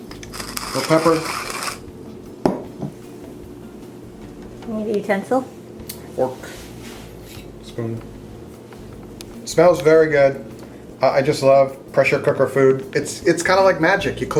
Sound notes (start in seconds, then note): 0.0 pepper grinding